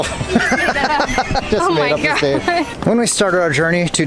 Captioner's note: laughter